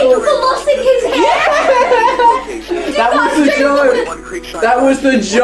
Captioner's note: both laugh